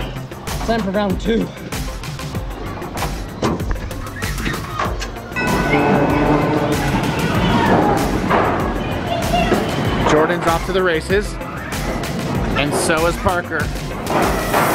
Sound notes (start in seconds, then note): 5.3 bell chimes